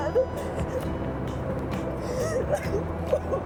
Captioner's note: sobbing